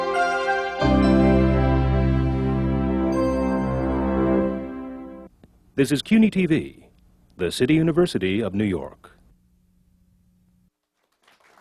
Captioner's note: applause